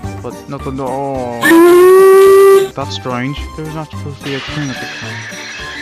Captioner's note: hears whistle